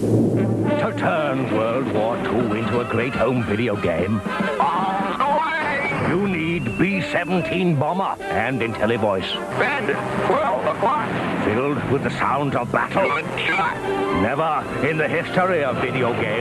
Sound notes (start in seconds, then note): 1.5 Winston Churchill imitation